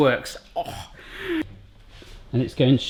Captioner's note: grunt